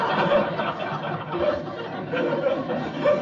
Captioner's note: laughter